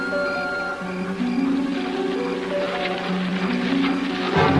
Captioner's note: animal Panting